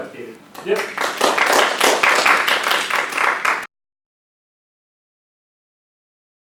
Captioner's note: audience applauds